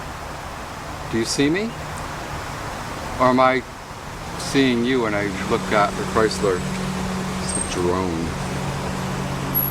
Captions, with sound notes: Do you see me? Or my ... seeing you when I looked at the Chrysler? (Traffic in Background) It says drone.